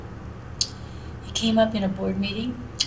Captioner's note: smacks lips together